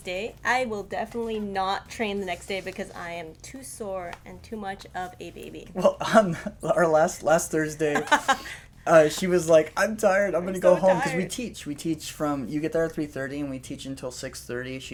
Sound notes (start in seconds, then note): 7.9 laughter